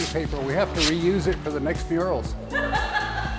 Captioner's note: woman laughs